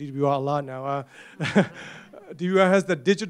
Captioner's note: laughter